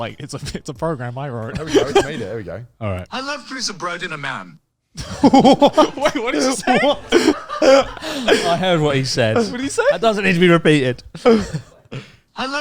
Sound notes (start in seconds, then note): 1.5 laughs; 5.0 chuckling; 5.0 laughs